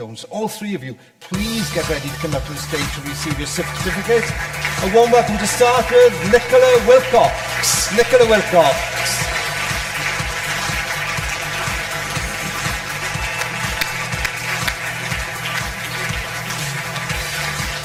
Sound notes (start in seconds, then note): 10.0 audience applause; 10.0 upbeat music